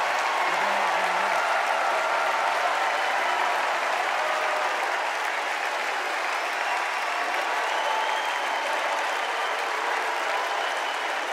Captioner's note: cheers and applause